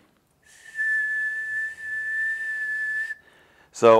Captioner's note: whistling